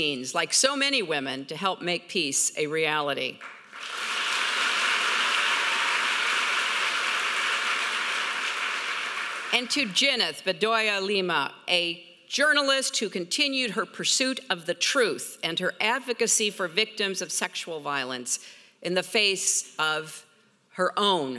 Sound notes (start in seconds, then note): 3.4 audience applauding